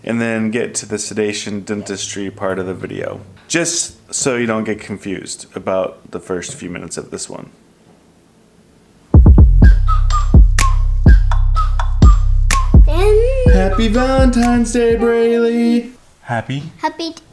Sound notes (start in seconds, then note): 9.4 upbeat music; 12.5 hums